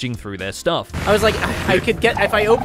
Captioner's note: Warden sniffing